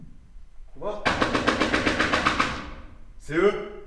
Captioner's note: banging on door